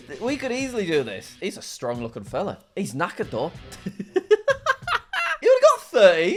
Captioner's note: laughs